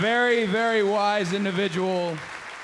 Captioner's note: crowd cheering